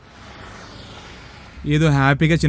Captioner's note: background bike sound